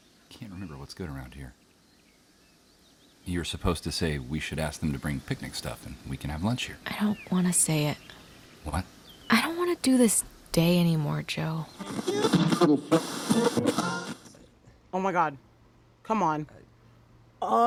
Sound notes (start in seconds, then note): 11.3 radio static